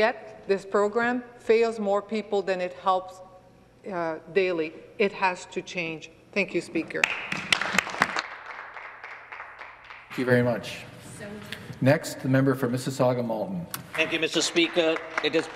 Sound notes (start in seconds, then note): 11.2 applause